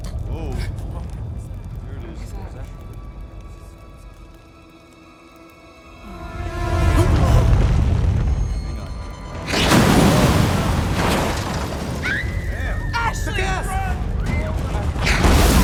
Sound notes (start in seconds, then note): 12.2 Ashley screams